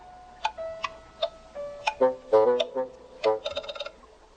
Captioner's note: fir cones tapping